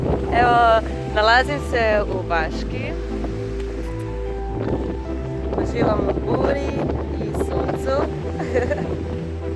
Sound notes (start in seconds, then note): 7.1 wind